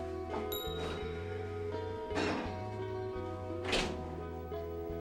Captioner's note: sound from computer of getting text messages